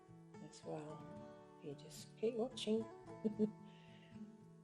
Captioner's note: laughs